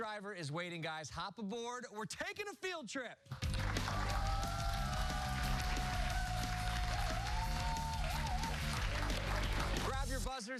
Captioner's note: cheers and applause